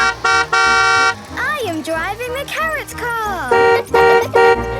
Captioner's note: honking; laughing; honking; horns honking